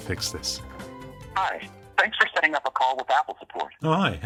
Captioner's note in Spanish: voz grabada